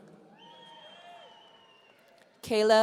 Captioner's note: audience cheering